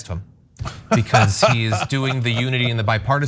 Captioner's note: laugh